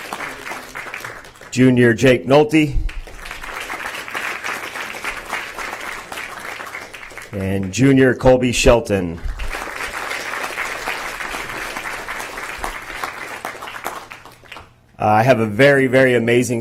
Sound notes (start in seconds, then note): 2.8 applause; 9.1 applause